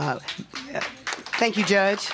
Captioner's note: applause